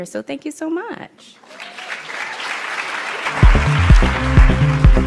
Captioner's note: applauds